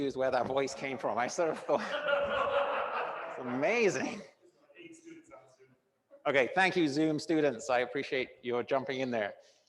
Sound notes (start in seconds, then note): 1.4 classroom audience laughing